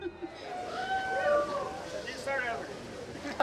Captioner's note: crowd cheers